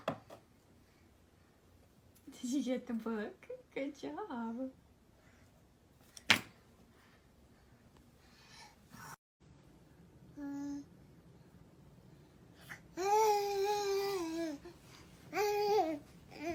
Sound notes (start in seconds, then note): 6.2 book thunks; 10.5 babbles